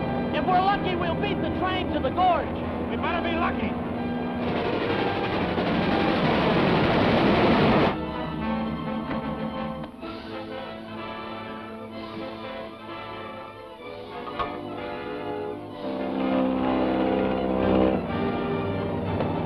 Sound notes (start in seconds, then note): 0.0 airplane whirring; 4.0 train rumbling; 8.7 intense music; 16.4 airplane whirring